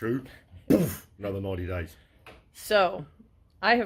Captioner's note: boof!